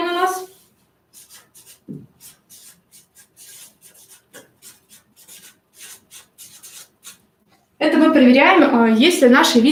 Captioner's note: скрежет маркера